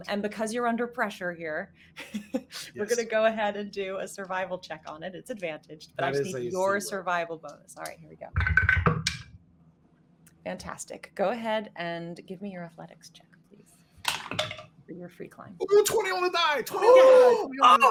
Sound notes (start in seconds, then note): 2.4 laughs; 7.7 dice clicking; 8.5 dice clattering; 14.6 dice rattling; 16.9 gasping loudly